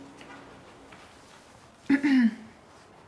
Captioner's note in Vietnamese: e hèm